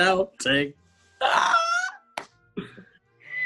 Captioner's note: laughs